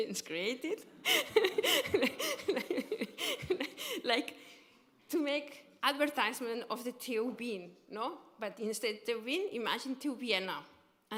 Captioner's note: laughter